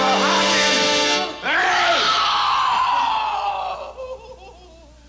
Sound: Ellie screaming

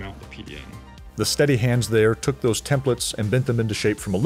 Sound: voiceover

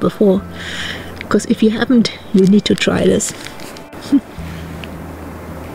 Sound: laughs

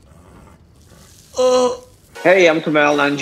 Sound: gasps; groans

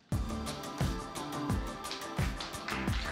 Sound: applause

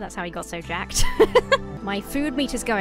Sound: laughs

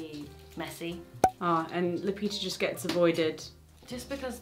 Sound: cork popping

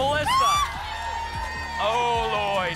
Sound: screams

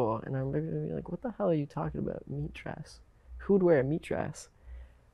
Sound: none

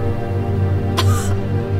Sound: emma coughs

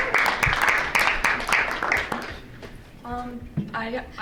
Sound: applause

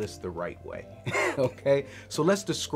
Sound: chuckles

